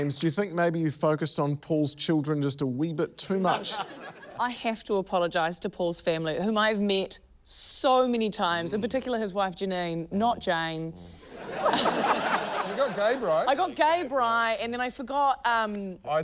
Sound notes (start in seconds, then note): 11.3 laughter